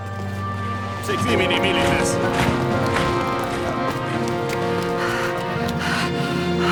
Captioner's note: people speaking in foreign language; child panting